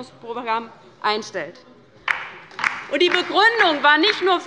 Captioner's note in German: Beifall bei der LINKEN